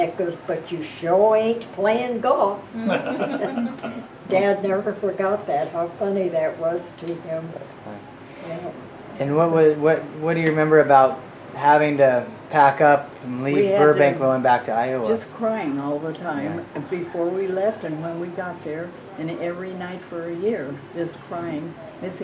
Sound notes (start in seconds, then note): 2.7 laughing